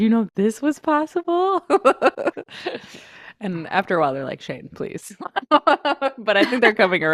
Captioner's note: laughs